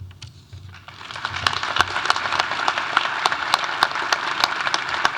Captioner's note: audience applauding